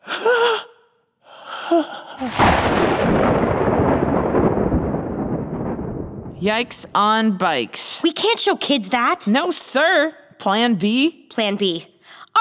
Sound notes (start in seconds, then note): 1.3 sobbing; 2.2 thunder booming